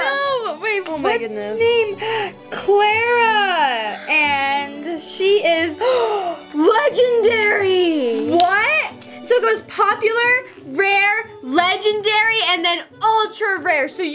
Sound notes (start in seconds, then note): 5.8 gasps